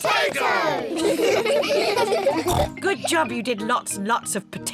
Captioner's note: kids laugh; snorts